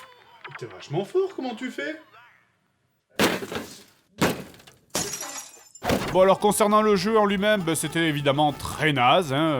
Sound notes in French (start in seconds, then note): 3.2 Bruit de coup de batte et d'objets brisés